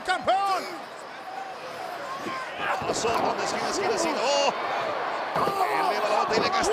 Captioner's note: applause